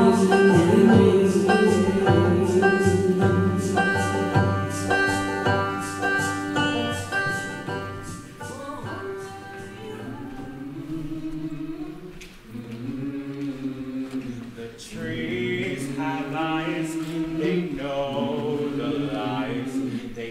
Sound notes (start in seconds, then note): 7.6 instrumental music; 11.7 characters humming